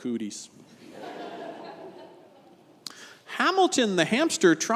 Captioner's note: congregation laughs